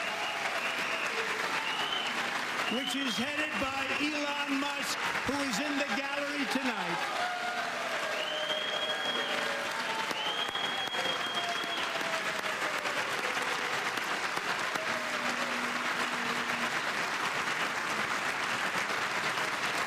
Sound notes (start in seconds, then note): 9.6 applause